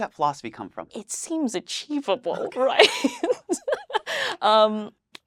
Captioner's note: laughs